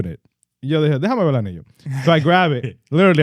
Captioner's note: speaking In Foreign Language